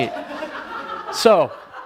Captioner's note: laughter